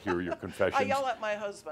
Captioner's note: chuckling